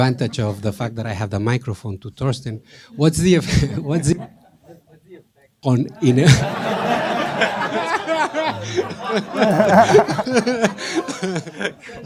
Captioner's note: laughter